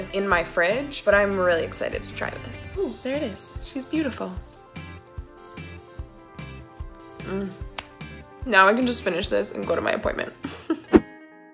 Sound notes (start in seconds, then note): 7.2 groaning